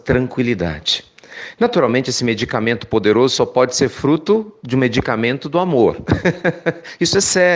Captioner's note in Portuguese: risos